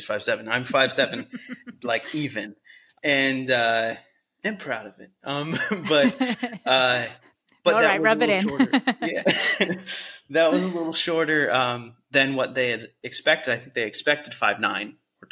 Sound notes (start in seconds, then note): 8.4 laughter